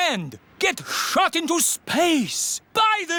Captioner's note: none